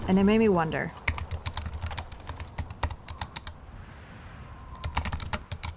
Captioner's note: keystrokes clicking